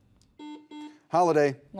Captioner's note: buzzer buzzes